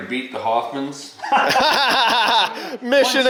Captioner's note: laughing